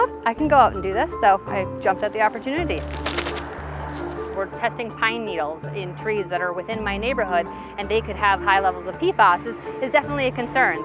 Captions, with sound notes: Oh, I can go out and do this. So I jumped at the opportunity. 00;01;38;10 - 00;01;43;02 (sound of shaking bag) we're testing pine needles in trees that are within my neighborhood. And they could have high levels of PFAS this is definitely a concern